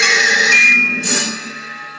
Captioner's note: ding